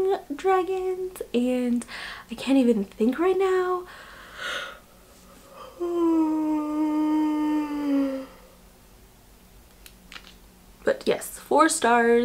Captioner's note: yawn